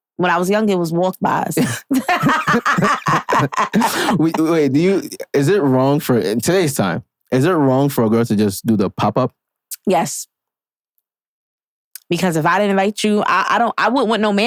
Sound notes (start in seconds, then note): 1.6 laughing